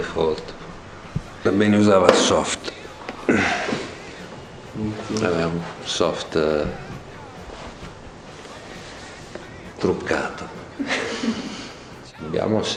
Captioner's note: laugh